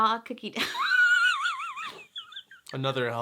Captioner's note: laughs